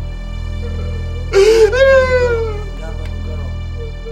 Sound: Rick sobs

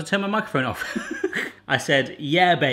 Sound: laughs

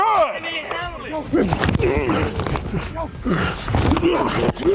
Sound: grunting

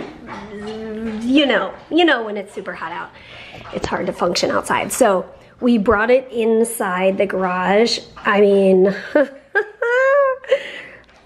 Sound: laughs

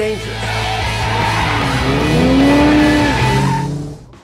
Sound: car screeching

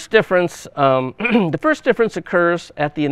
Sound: clears throat

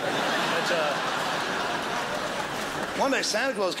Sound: crowd laughs

